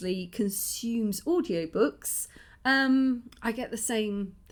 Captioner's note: none